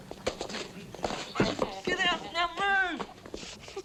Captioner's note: Betty laughing